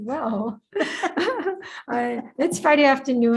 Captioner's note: participants laughs loudly